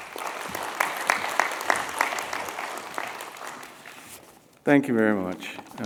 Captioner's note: applause